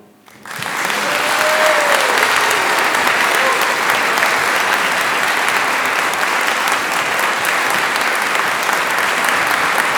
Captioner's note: applause